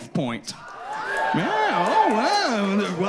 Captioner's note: audience hooting and applauding